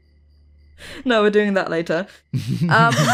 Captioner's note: chuckles; laughs